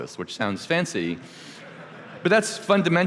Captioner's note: laughter